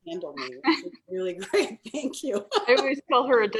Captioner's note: laughs